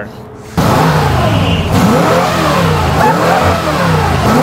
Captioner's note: car revs